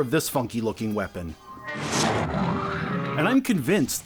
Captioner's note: trampoline-bounce-suction, monster-growl noise